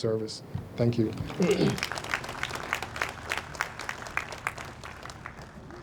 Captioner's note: audience applauds